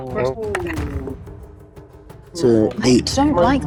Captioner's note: die rattles